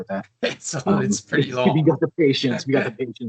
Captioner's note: chuckling